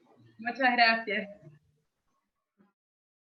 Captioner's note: speaking in foreign language